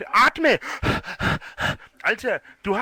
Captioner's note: mimics heavy breathing